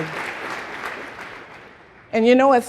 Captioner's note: applause